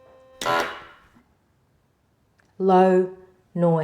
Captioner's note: machine blaring